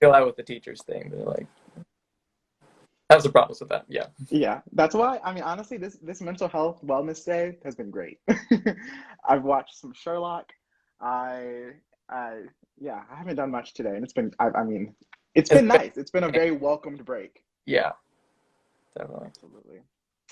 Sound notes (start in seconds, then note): 8.2 laughing